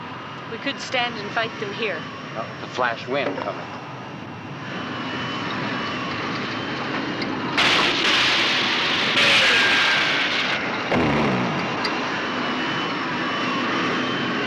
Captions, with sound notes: We could stand and fight them here. Not with the flash wind coming. (zooming) (roaring)